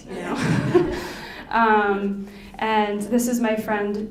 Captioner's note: laughing